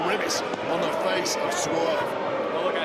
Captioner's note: audience booing